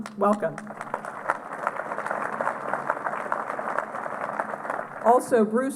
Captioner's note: applause